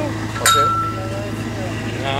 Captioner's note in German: Gong